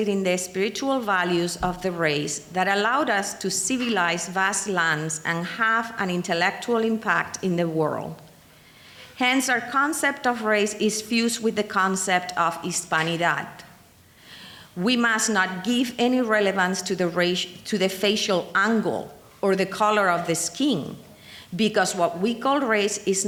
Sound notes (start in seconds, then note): 12.6 speaking in foreign language